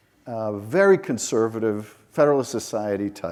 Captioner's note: none